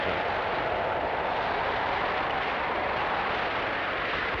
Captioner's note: wind howling